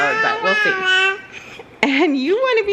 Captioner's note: babbling